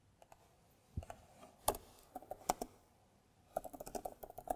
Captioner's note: keyboard clicking